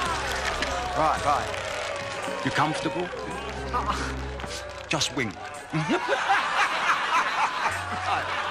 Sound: laughs

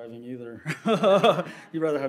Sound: laughs

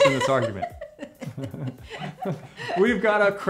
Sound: both laugh

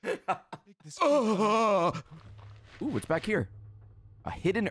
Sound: groans; laughs; moans

